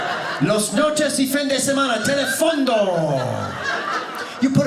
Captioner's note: audience laughing; speaking Spanish